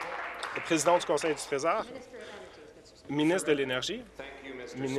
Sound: applause

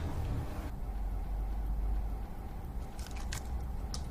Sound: none

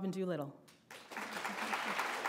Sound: applause

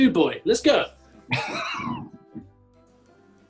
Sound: laughing

